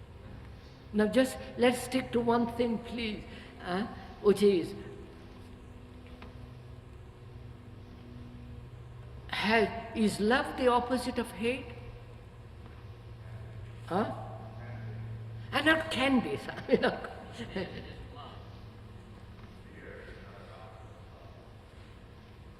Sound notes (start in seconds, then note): 16.4 laughs